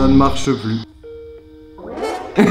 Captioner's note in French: Sonnerie d'appel sur Skype